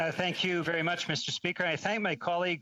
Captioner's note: speaking in french